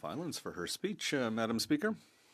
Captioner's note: speaking French